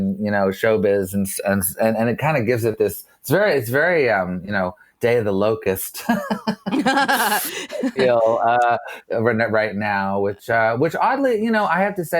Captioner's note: laughs